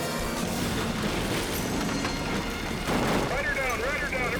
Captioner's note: motorcycle clashes